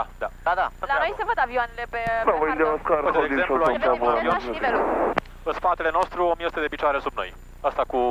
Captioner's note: radio chatter